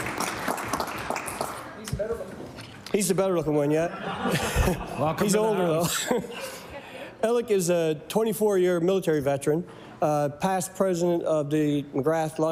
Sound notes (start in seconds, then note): 0.0 applause; 7.1 laughter